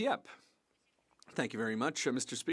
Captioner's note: speaking French